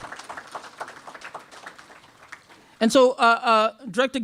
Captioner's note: applause